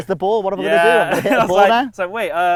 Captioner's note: laughs